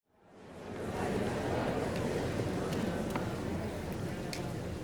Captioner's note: audience murmuring